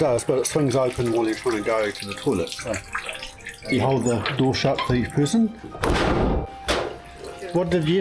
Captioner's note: squeaky hinge, door slam